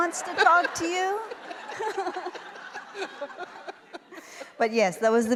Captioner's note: laughter